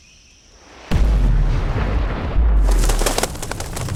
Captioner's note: explosion sound